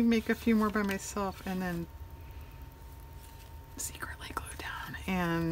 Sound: whispers

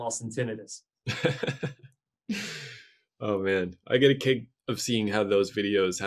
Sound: interviewer laughs

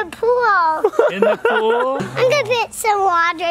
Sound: laughing

